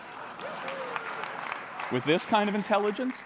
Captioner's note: applause